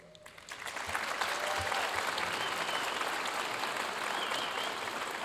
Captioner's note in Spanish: aplausos de la audiencia